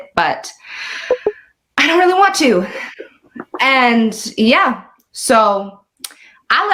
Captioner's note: notification sound